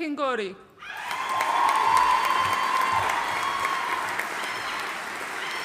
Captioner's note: audience cheering and applauding